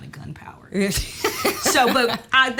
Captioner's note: Kellita laughs